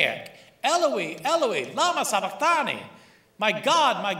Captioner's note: speaking aramaic